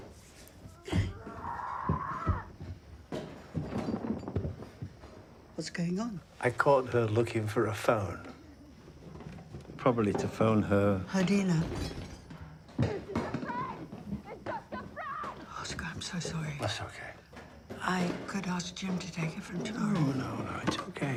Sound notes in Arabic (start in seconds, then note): 0.8 آنا تصرخ; 2.3 أشياء ترتطم